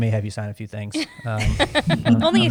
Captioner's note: laughter